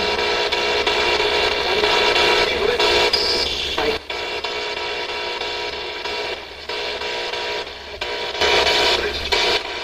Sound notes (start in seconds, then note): 0.6 static buzzing